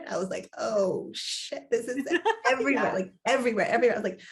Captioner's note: laughs